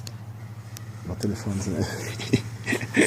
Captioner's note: laughing